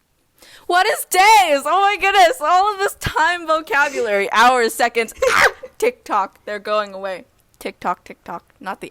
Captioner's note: screams